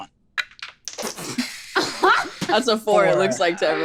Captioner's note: laughs